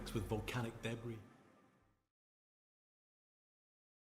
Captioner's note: sound fades out